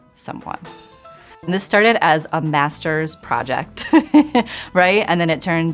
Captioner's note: chuckling